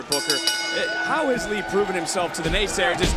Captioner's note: bell rings